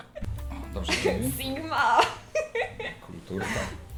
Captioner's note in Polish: śmiech